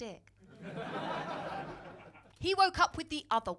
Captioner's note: crowd laughing